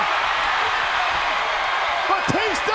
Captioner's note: crowd cheering